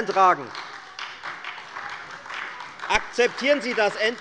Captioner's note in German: Beifall bei der FDP und bei Abgeordneten der SPD